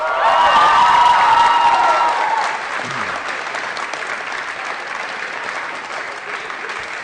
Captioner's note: applause & Cheering